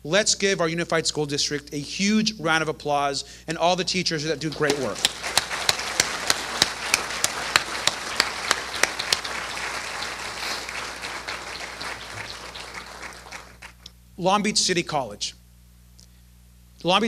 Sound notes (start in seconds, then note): 6.1 applause